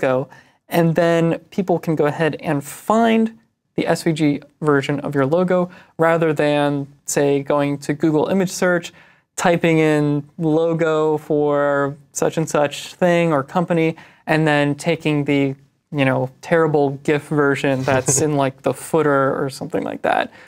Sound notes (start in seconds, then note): none